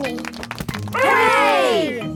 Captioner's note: crowd applauding